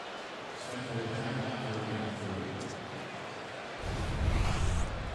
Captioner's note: pa announcement